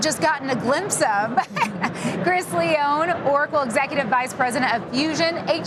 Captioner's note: laughs